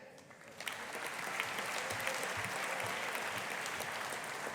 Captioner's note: audience applauding